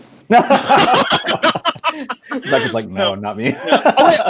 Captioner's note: laughing